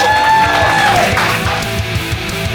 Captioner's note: cheers and applauses